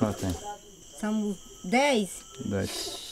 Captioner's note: speaking foreign language